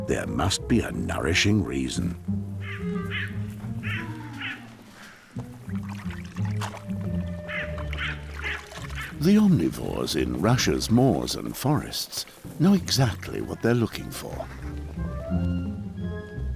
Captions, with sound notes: there must be a nourishing reason. [crows call] The omnivores in Russia's moors and forests know exactly what they are looking for.